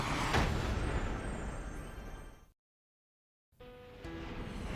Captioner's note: whoosh